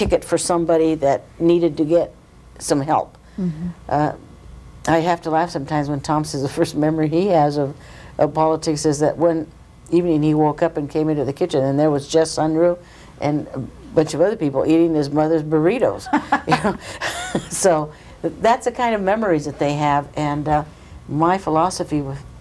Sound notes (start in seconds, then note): 16.1 laugh